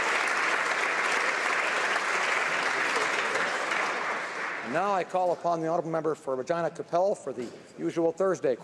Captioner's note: applause